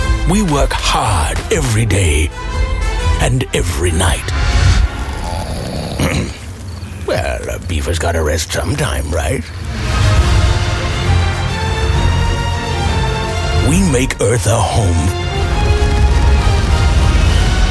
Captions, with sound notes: We work hard every day... …and every night. *snoring* Well, a beaver’s gotta rest sometime, right? TERRAFORM We make Earth a home.